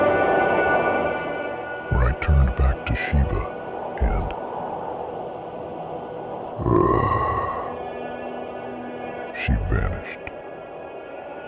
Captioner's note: growl